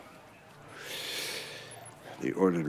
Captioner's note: sigh